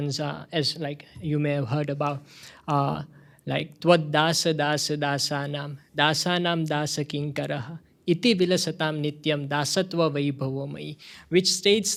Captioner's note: speaking hindi